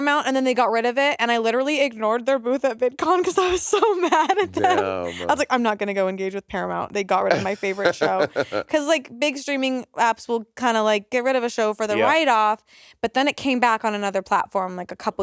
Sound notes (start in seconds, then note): 3.2 laughing; 7.2 Monét laughing